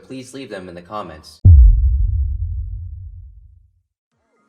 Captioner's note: boom